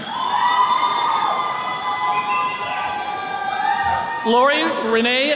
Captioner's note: attendees cheering